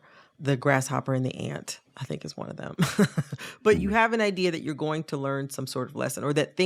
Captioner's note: laughter